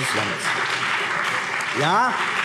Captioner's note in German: Beifall BÜNDNIS 90/DIE GRÜNEN und vereinzelt CDU